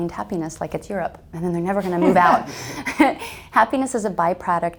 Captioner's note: laughs